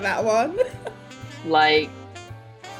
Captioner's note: laughing